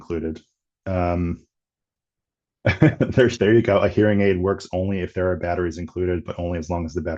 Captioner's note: laughing